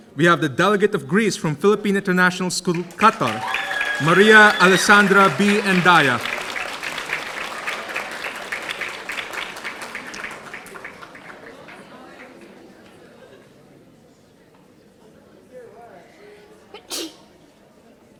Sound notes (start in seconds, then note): 5.9 audience applauding